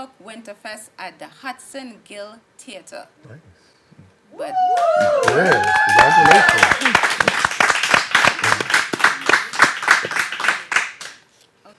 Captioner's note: applause